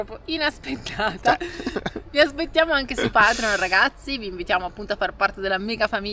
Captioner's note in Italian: risate